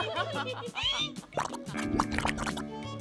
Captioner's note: contestants giggling; mud bubbling